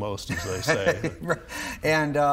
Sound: laughing

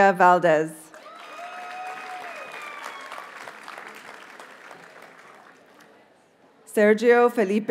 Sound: audience cheers and applauds

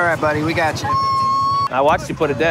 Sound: bird hoots

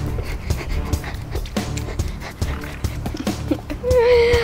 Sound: high energy dance music; pants

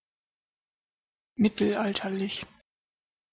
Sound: fast Pronunciation

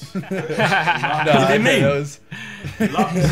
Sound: everyone laughing

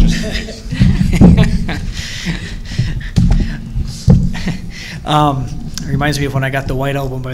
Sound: laughter

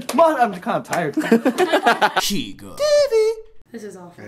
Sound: laughter

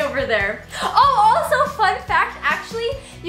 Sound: gasps

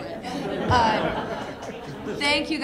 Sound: laughing

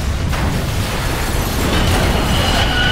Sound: crashing

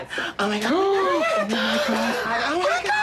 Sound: gasps

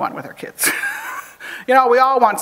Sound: chuckles

